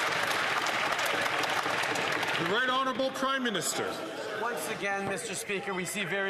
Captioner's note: some Applause